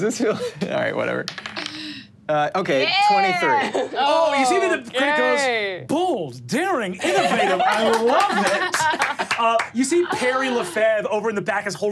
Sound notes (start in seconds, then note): 7.7 audience applauding